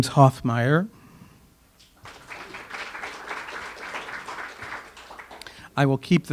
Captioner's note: audience applause